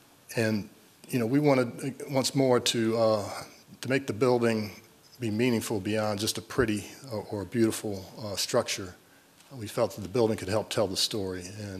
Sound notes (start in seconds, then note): none